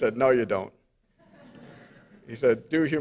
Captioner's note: audience laughs